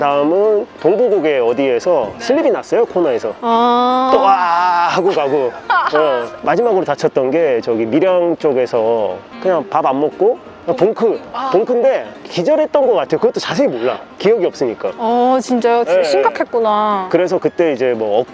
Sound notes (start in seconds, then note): 4.9 laughter